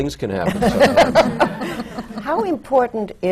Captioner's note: laughter